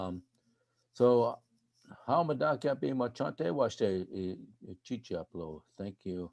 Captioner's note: speaking in foreign language